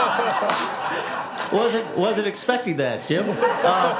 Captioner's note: laughter